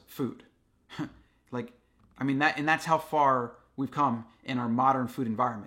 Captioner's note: chuckles